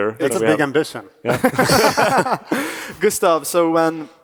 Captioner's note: panelists laugh